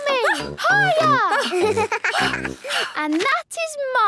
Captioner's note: giggles; panting